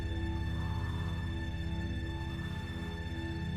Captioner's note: sound of magician breathing